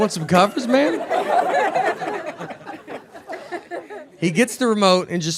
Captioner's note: audience laughing